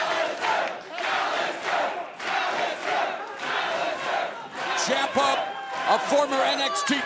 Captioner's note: fans chanting